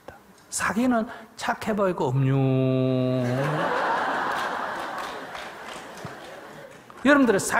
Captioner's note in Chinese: 听众 笑